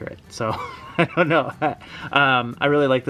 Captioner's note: laughs